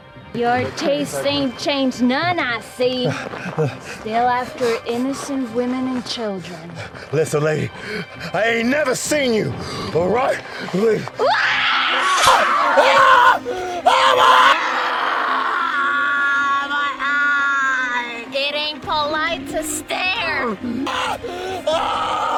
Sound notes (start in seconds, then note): 11.2 screams of terror and pain; 11.2 Mia screams